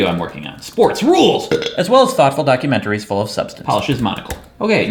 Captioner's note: burps